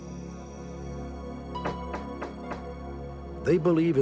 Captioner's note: knocking at door